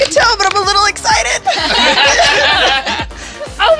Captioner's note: laughter